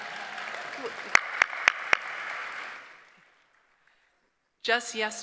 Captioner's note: applause, cheering